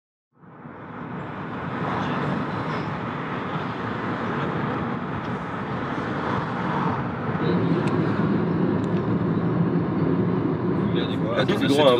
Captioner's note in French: son de voiture